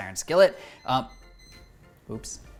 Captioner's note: loud beeping